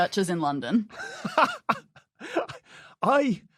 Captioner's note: laughs